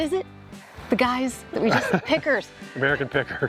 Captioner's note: laughing